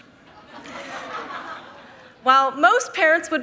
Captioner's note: members laughing